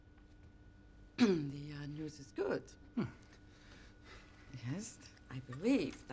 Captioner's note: clears throat